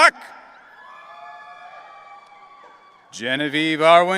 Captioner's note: audience cheering